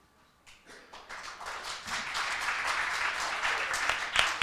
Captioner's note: applause